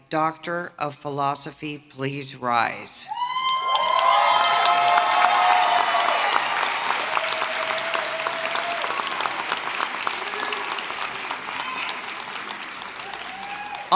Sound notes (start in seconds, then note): 3.3 applause